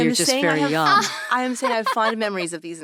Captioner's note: laughing